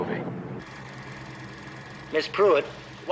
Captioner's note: projector whirring